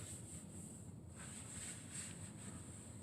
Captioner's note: wiping sounds